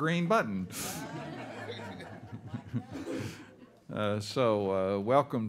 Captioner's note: all laughing